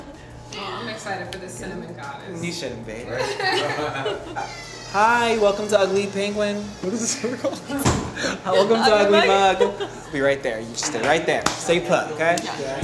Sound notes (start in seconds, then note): 7.6 laughs; 12.5 sexy music